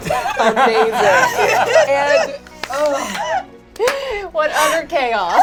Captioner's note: all laugh